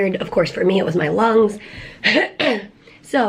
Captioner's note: clears throat